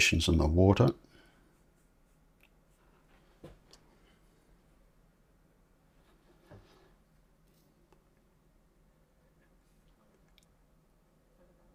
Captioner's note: silence